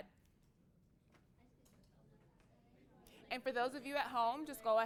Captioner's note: students talking to each other